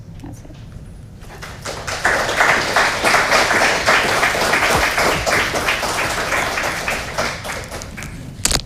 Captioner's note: clapping